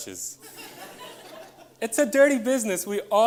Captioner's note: audience laughs